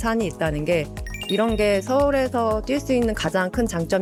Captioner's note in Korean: 반짝이는 효과음